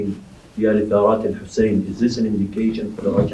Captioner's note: Arabic